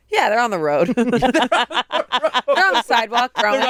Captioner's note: all laugh